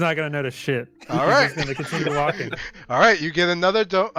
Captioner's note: laughter